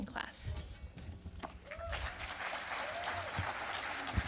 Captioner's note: applause